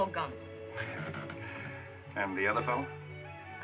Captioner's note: chuckles